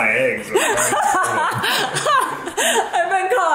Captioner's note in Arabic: يضحك